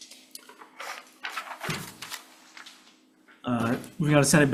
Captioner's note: page fluttering